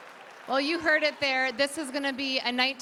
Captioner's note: applause